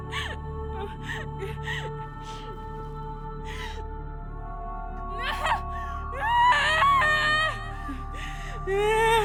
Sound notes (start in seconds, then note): 6.1 wailing